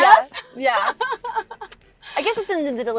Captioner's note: Gigi laughs